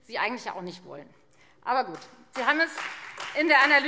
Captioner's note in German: Beifall Freie Demokraten